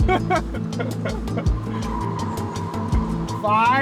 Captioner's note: laughing; tires squealing